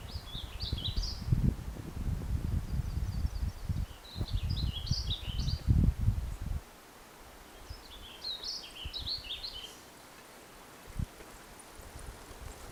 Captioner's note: birds chirping